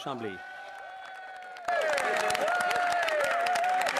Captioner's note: some Applause; speaking French